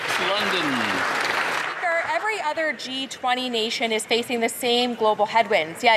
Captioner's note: some Applause